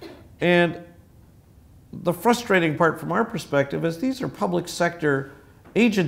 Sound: cough

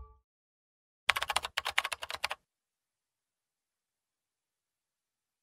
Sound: keyboard clacking

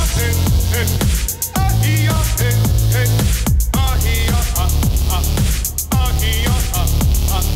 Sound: upbeat music; foreign vocalizing

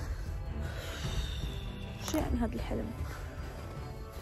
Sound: sighs

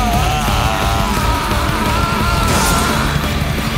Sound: screaming

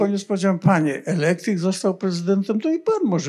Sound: foreign language

